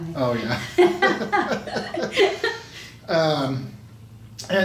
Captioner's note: both laughing